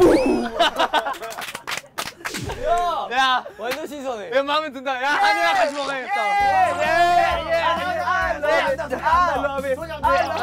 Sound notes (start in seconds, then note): 2.0 laughing